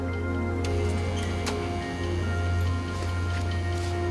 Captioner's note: door buzzing